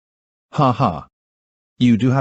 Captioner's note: Benjamin Chuckles